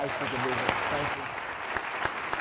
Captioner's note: applause